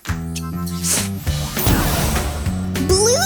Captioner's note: potion spraying